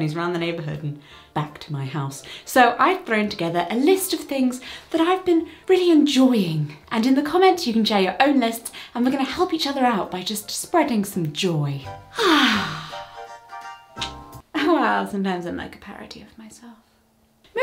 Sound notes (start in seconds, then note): 12.1 Disney princess sigh